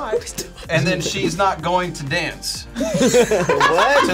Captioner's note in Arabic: يضحك; تضحك